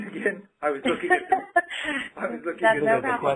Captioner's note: laughter